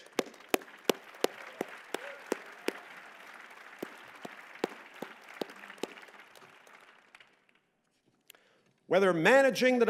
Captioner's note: applause